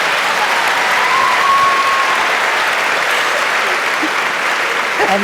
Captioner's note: audience cheering